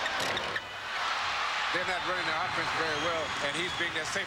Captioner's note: crowd cheers